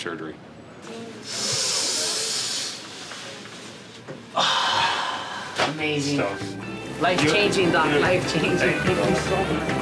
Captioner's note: deep breath